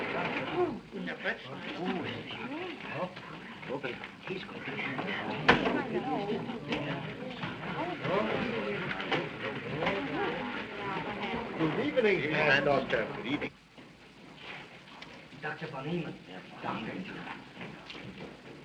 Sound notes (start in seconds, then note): 3.1 crowd chattering